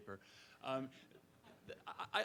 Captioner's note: participants laugh